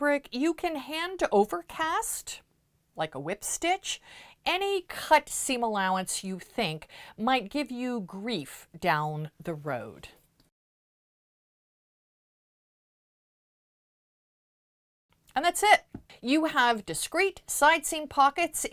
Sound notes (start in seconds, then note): 10.5 no Sound Present